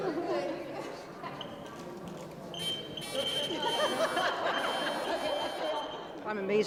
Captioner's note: laughter